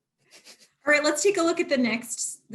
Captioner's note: laughter